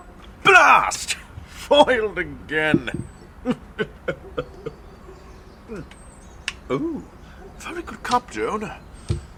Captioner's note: sinister chuckle into sipping tea